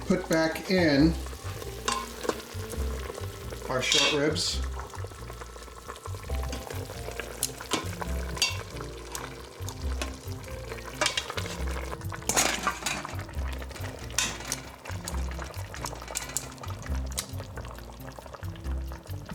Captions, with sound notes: Put back in our short ribs. (sizzles)